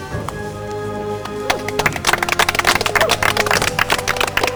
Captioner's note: clapping